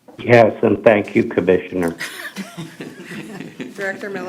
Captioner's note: laughter